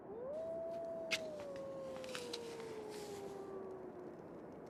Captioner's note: wolf howling in the distance